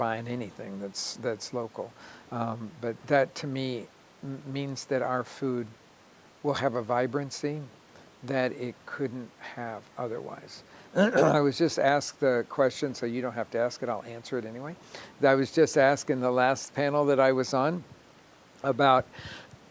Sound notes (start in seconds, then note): 10.9 clearing throat